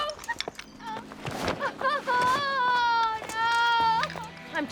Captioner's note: thuds; crying